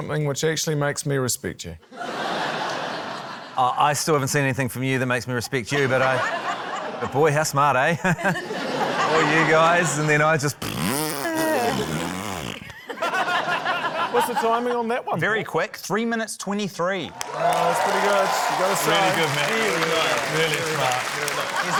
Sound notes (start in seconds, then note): 1.9 laughter; 7.9 laughter; 8.0 chuckles; 10.6 blows raspberry; 12.6 laughter; 17.1 cheering, applause